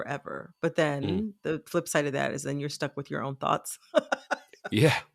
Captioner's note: laughter